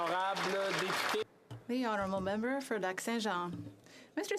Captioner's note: applause